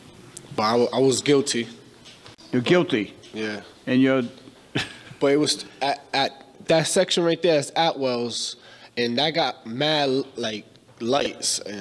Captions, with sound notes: But I was guilty. You're guilty? Yeah. (Chuckles) But it was at that section right there at Admiral, and I got mad lights and I was confused.